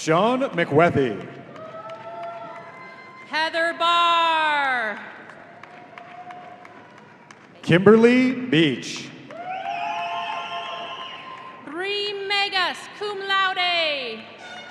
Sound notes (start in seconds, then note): 9.3 audience cheering and whistling